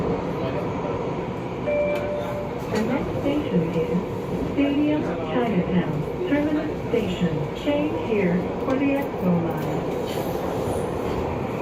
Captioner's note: Skytrain Ding Chime